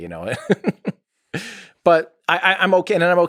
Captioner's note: Tim laughs